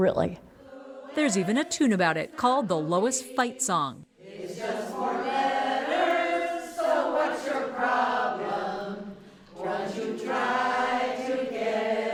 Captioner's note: voice-over